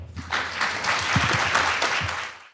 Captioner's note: crowd applauds